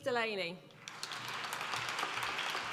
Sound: applause

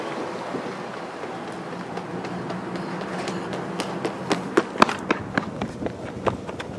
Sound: running footsteps

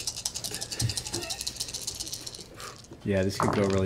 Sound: dice rattle

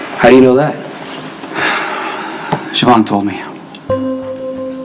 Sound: sighs

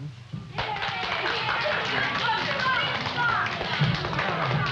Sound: applause

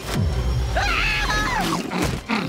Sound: screaming

